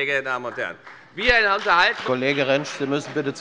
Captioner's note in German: Beifall bei der FDP